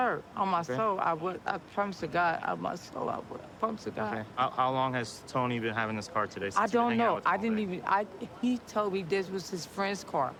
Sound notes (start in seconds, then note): none